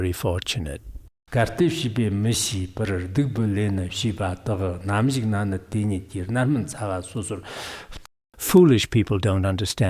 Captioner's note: giving oral transmission in Tibetan